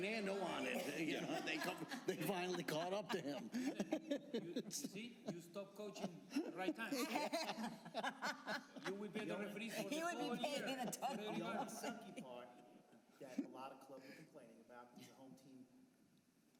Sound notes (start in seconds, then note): 5.1 laughter